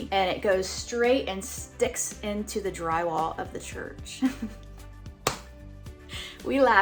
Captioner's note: chuckling